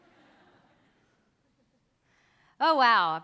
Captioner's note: audience chuckles